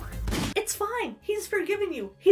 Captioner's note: gun fires